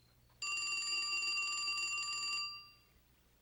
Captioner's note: telephone ringing